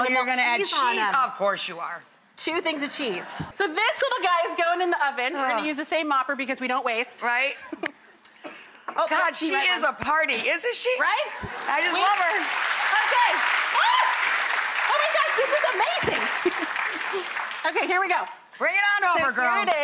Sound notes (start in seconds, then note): 13.4 audience applause